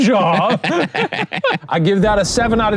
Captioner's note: laughs; both laughing